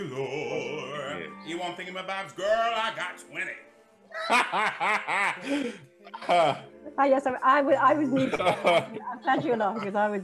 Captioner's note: laughing